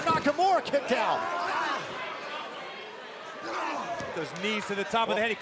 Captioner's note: crowd chatter